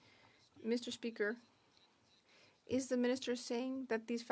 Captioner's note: speaking French